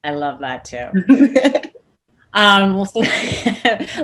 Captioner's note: laughs